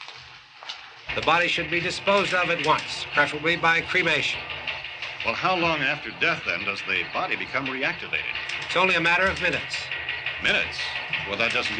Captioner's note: TV news continues